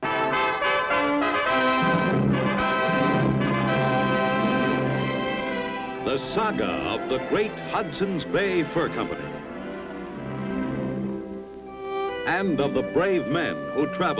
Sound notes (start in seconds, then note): 0.8 ominous music; 1.4 cannon booming